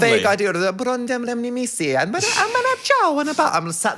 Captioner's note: speaking gibberish